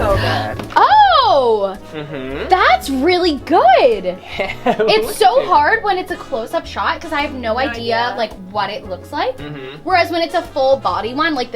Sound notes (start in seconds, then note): 5.1 laughing